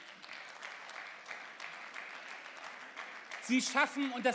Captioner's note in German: Beifall